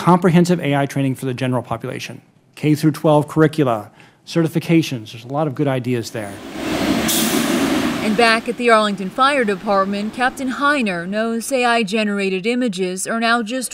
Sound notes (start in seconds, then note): 6.2 truck revving